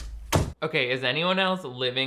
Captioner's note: door thuds